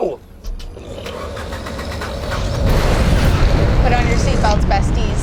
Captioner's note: rocket fires up